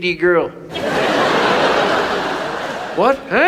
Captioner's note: audience laughs